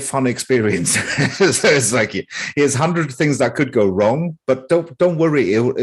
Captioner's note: laughs